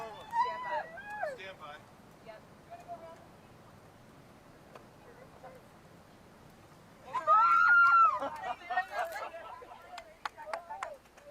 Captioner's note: cheering